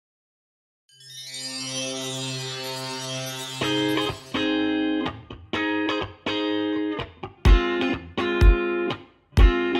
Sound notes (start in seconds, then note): 0.9 magical chimes; 3.5 upbeat music